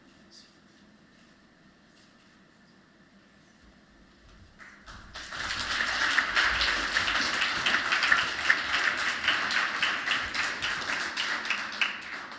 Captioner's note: applause